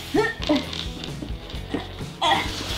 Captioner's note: grunts